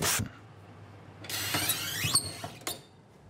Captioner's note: squeaking of the oven door